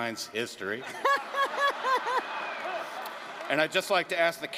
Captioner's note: laughter